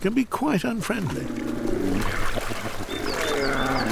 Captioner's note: bears roaring